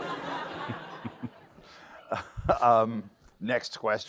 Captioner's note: laughter